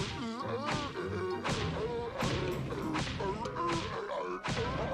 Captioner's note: booster grunts in rhythm